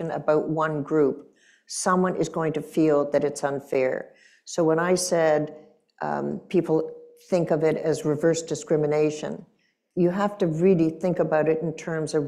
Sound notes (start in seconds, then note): none